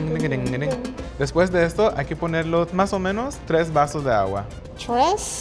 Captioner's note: salsa music; speaking Spanish